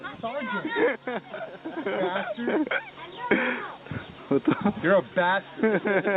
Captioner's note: soldiers laughing